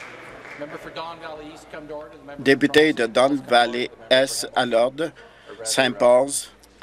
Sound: voice trailing

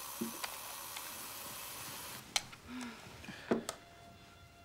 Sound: alarm clock buzzing

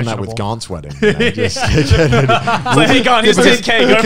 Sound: everyone laughs

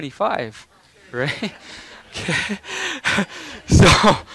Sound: laughing

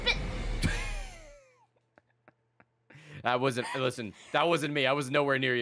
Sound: laughs

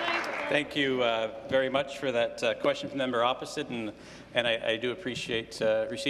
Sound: applause

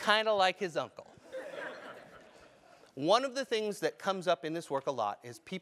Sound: laugh

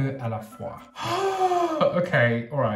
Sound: sighing

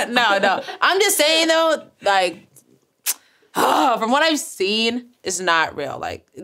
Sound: groans

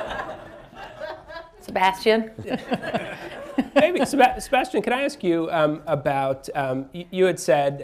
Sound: laughter

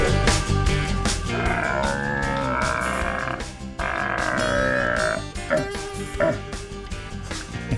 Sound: making roaring stag sound

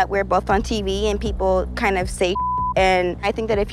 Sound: beep

